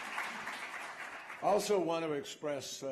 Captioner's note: applause